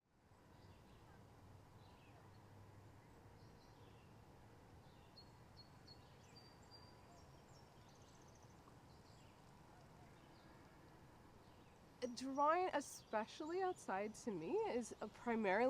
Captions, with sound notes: [Birds chirping] Drawing especially outside to me is a primarily